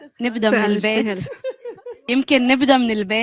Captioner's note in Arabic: ضحك